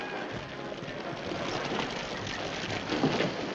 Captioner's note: fire crackling